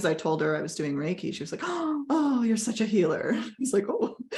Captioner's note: gasps